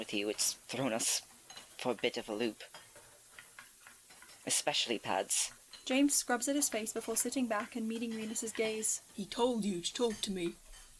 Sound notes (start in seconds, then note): none